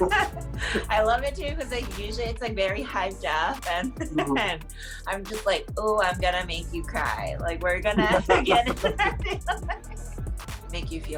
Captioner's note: laughter; laughter